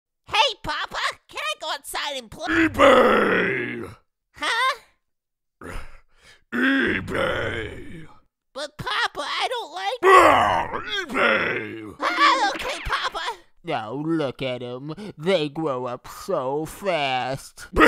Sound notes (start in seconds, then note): 5.6 sigh; 11.1 roar